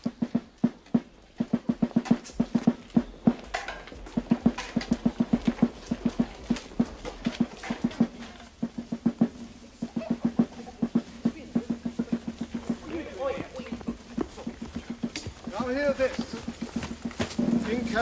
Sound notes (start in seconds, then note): 0.2 drumming; 11.7 chatter